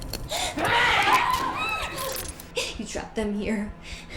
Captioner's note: creature screams; Kira squeals